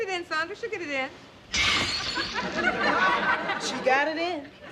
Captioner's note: glass shattering